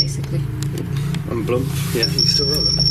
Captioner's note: beeping